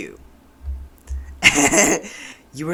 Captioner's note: laughter